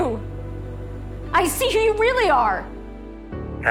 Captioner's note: shouting; shouting